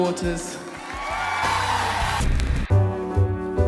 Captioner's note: crowd cheers and applauds